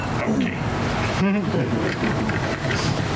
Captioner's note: audience laughs